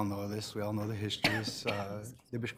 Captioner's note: coughing